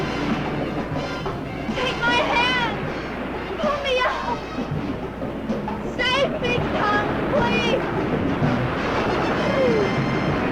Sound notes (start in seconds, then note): 0.1 suspenseful music; 2.4 waves crashing; 7.6 waves crashing